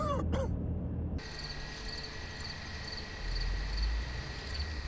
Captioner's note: David coughing; car rumbling; cicadas chirping